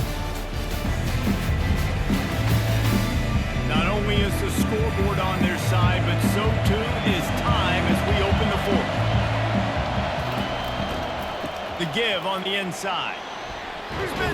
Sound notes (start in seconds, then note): 0.0 pa announcement; 0.3 energetic music; 9.5 cheering